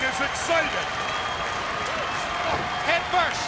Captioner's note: spectators cheering and applauding